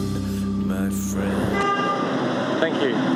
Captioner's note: car Toots!!